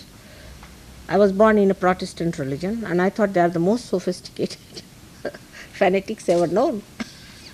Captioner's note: laughs